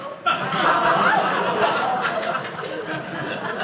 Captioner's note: audience laughing